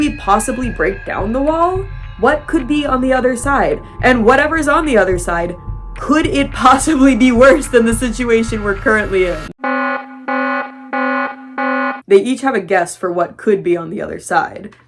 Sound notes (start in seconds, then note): 9.9 distorted alarm blaring